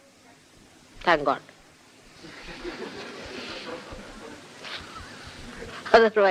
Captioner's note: laughter